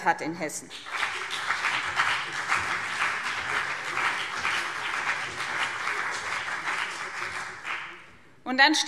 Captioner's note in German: Beifall BÜNDNIS 90/DIE GRÜNEN und vereinzelt CDU